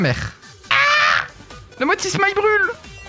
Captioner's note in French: cri peu viril